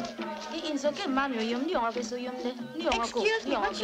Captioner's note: tonga spoken audio